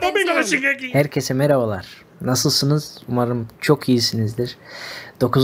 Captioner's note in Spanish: habla en un idioma extranjero